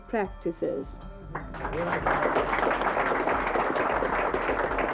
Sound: audience applauding

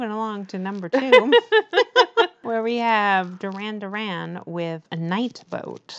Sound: laughs

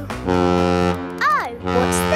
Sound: horn bellowing

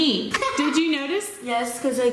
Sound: laughing

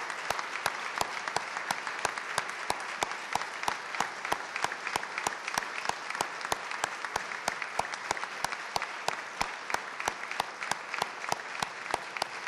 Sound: applause

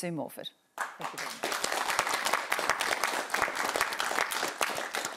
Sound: applause

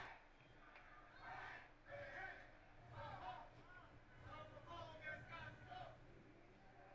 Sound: crowd chanting/shouting; singing

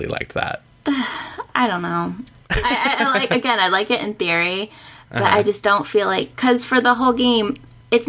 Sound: sighs

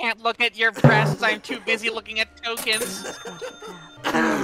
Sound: timpani hit; cash register; whomp cough

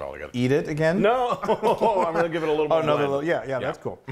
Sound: laugh

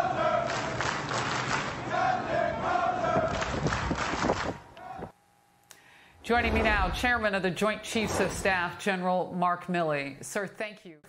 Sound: crew chanting

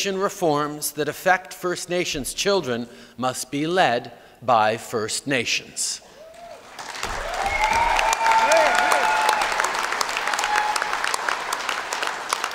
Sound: cheers & Applause

